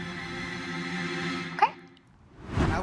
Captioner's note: air whooshing